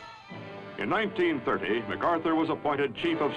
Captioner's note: voiceover